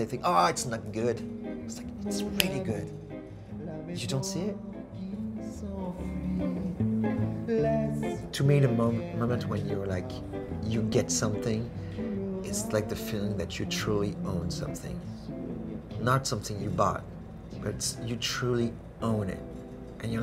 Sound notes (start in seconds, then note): 2.3 clicks fingers; 5.8 jazz music; 5.8 sings in a foreign language